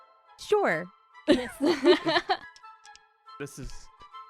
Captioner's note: laughter